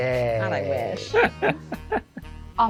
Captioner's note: laughs